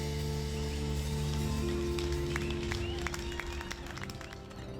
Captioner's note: song fade, birds chirp